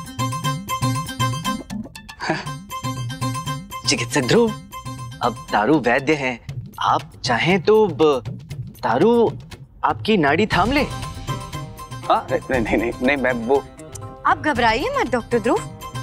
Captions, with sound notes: [jolly music] [chuckles] Doctor Dhruv, Taru is a physician. If you want... Taru can check you. What? No, I... Don't be scared, Doctor Dhruv.